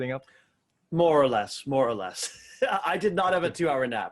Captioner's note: chuckles